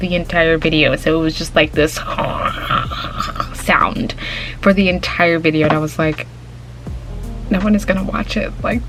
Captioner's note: hissing/static/gurgly